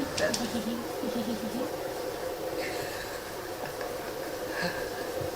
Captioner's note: laughing